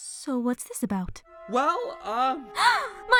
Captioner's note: cabby gasps